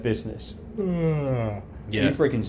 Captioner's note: yawns dramatically